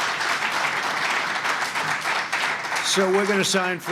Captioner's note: applause